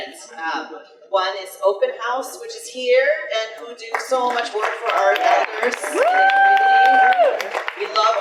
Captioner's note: audience applause